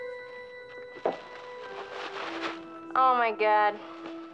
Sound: tissue paper crinkling

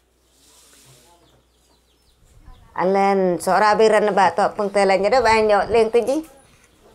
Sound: speaking Lanjia Sora

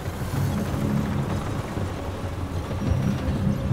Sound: dramatic ominous instrumental music; tank rumbling

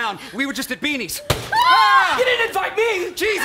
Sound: bang

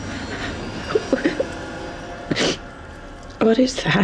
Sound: crying

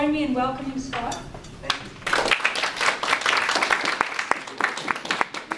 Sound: audience applause

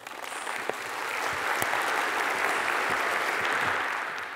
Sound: audience applauding

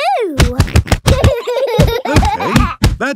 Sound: banging

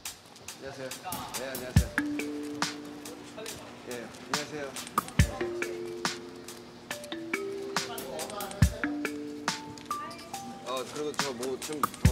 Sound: speaking in foreign language

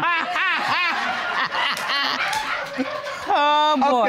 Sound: all laugh

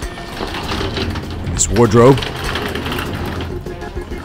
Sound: wheels rattling

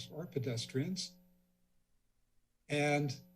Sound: silence

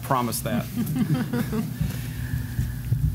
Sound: laughter

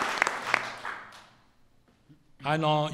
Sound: applause

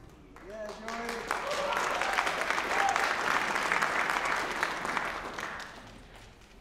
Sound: applause

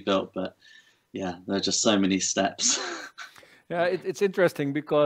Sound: chuckles

